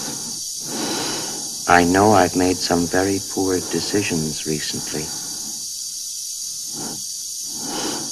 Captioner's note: HAL 9000 computer speaking